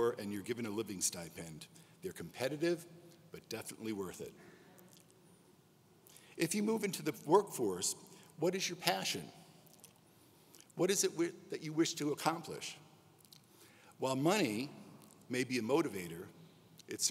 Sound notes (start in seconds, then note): none